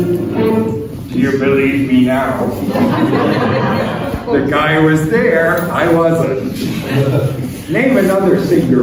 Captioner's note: laughter